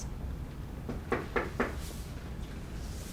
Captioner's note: knock at door